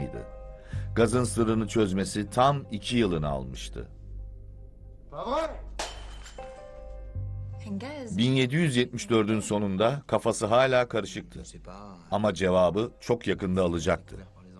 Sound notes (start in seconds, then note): 5.2 frustrated shout